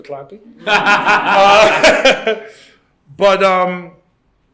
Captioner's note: laughter